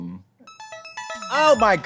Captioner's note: ringing sound